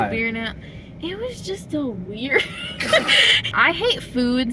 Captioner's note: laughter